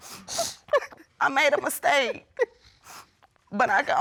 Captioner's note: sniffling